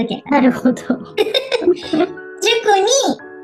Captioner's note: laughs